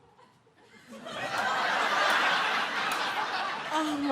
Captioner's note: audience laughs